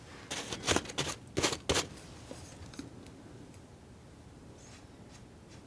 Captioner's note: scratching